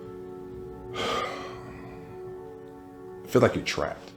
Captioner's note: sighs